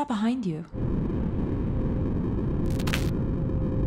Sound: low distorted static

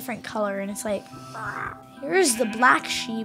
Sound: imitating meowing

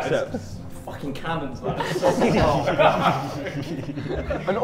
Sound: Sidemen laugh

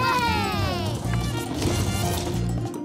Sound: scream

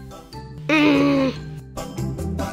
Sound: groan

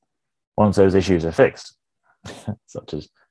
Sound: chuckles

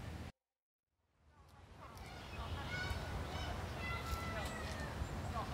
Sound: light sounds of nature. Music has stopped

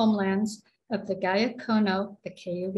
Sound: speaking cayuga

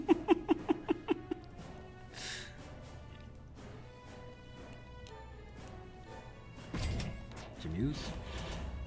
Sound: laugh

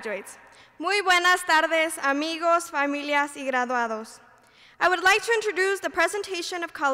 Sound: speaking Spanish

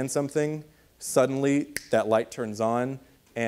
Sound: fingers snapping

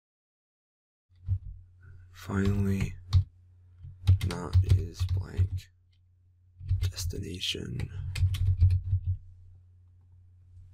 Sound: typing

